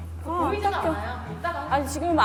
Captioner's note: rubbing